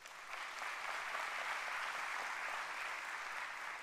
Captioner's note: applause